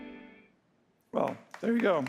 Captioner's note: applause